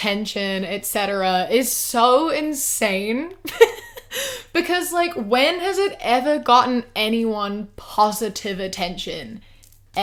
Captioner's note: laughs